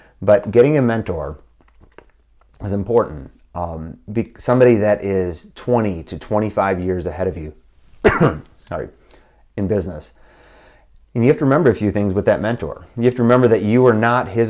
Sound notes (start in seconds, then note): 8.0 coughs